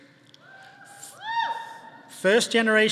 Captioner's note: audience cheering